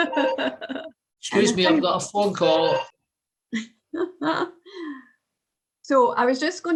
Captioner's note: phone rings